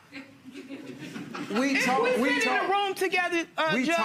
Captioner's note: audience chuckling